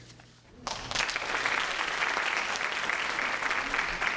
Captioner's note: applause